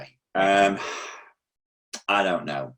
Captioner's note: sighs